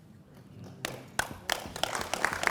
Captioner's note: applause